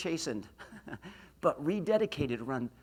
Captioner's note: laughs